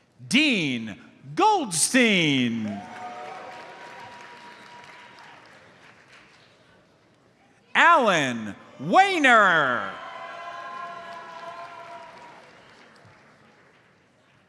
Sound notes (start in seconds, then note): 2.6 audience cheers and applauds; 9.8 audience cheers; 11.4 audience applauds